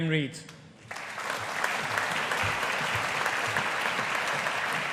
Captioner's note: audience applauding